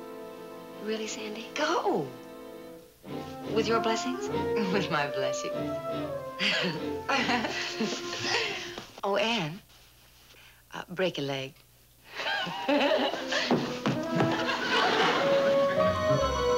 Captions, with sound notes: -Really, Sandy? -Go. With your blessings? With my blessings. (laughing) Oh, Ann, uh, break a leg. (both laughing)